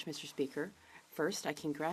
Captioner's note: speaking French